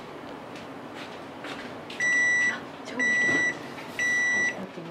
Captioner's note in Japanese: 焼き上がりの音